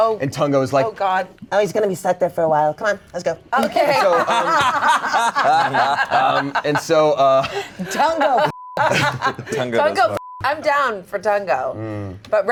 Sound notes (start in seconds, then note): 4.0 everyone laughing; 8.4 beep